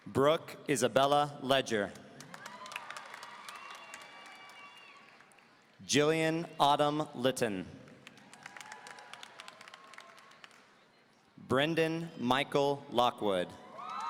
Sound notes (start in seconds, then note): 2.2 audience applauding; 7.9 audience applauding